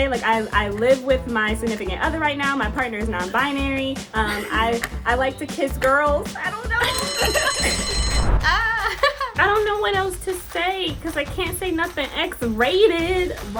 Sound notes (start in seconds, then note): 6.8 bell dinging; 8.5 giggles